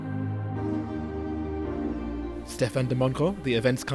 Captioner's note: voiceover